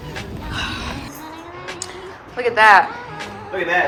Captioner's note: sighing